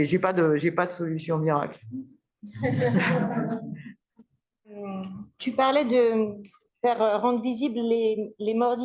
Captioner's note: laughs